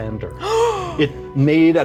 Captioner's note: Evelyn gasps